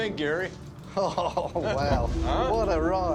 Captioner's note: chuckling